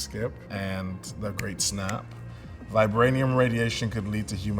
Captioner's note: fingers snapping